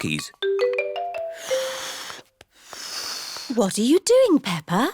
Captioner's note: failed whistle